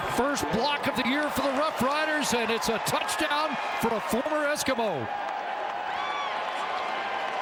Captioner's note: cheering